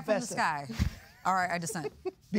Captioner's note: laughing